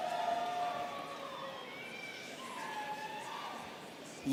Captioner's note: students cheering